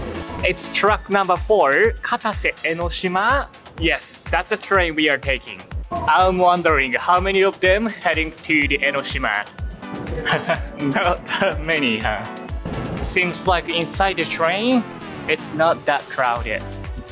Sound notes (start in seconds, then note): 9.7 chuckle